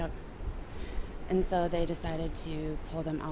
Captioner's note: voiceover